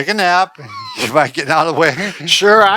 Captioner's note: both giggling